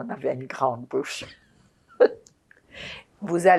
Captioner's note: laughing